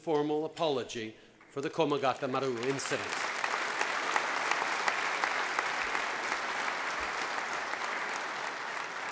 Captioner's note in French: Applaudissements